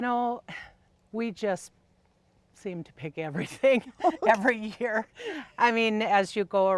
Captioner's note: laughing